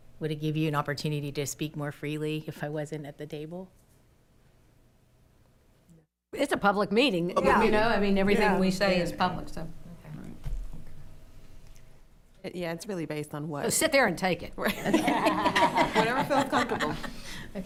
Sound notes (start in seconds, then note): 7.3 others agreeing; 14.6 attendees laughing